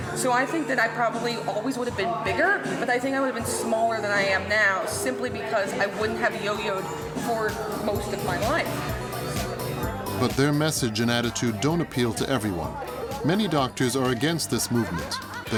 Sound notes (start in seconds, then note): 8.9 chattering; 8.9 upbeat music